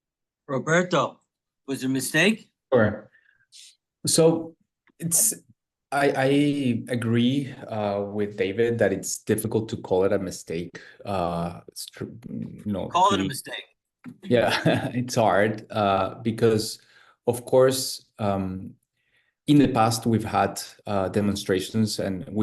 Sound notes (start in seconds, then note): 15.5 laughs